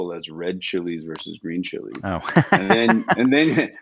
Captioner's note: laughs